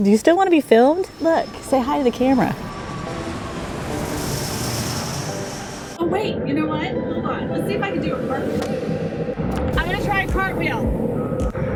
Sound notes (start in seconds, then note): 3.5 whirring plane engine